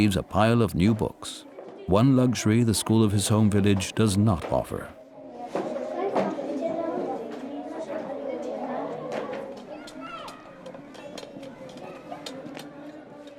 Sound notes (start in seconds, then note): 6.6 chatter